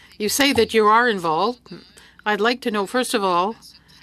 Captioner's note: speaking French